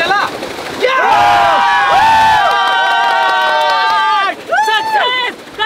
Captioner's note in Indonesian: Teriakan